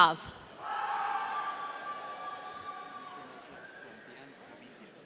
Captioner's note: audience cheering